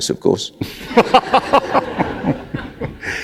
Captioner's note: laughter